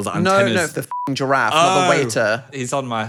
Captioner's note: beep